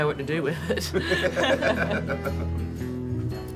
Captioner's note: laughing